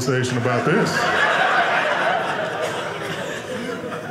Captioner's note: audience laughing